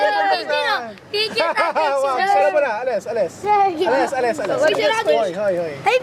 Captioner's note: speaking in a foreign language